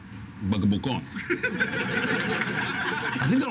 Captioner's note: laughs